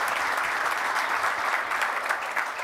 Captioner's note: applause